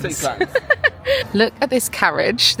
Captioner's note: laughing